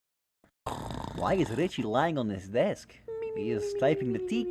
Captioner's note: snoring